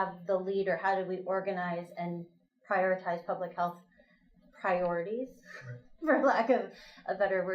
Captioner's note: laughs